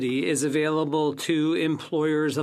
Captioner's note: speaking FRENCH